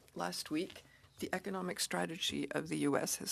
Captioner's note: speaking French